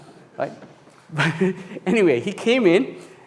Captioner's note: audience laughs